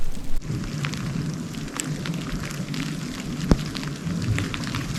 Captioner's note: downpour pattering